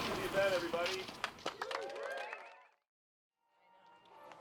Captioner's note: loud cheers